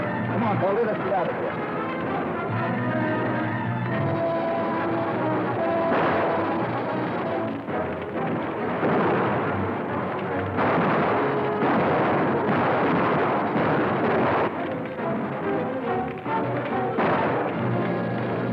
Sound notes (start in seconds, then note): 3.1 dramatic music; 3.1 guns firing